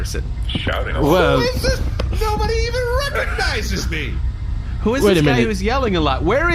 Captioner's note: shouting